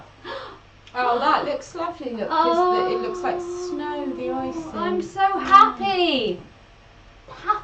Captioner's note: gasps